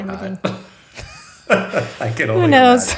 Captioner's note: laughing